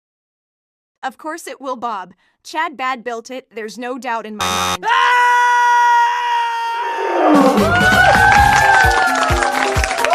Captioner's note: screaming; applause